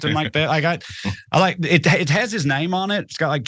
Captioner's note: laugh